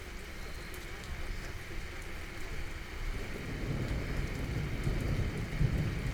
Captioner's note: the rain continues